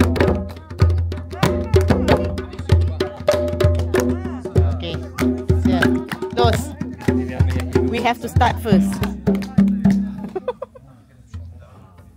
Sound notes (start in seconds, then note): 4.6 speaking German; 10.1 laugh